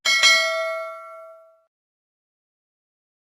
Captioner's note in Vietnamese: chuông